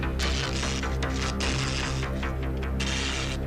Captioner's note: buzzing